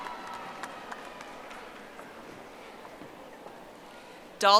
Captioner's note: audience applauding